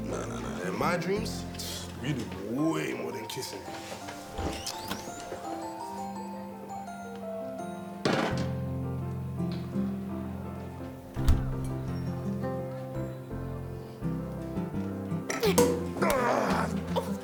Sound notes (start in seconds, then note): 4.2 door squeaking; 8.1 bottle clattering; 11.1 door thudding; 15.2 Tyler groaning; 15.4 cork popping